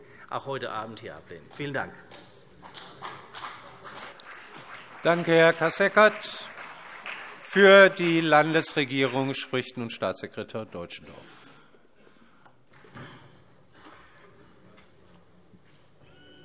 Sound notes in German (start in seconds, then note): 2.6 Beifall CDU und BÜNDNIS 90/DIE GRÜNEN